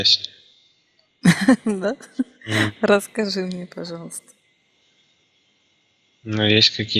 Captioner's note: laughing